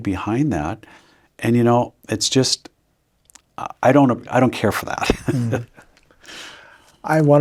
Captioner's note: chuckles